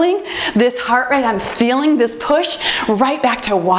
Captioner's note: timer beeps